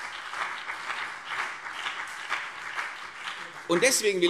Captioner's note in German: Beifall CDU und BÜNDNIS 90/DIE GRÜNEN